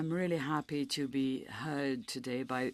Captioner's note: speaking in French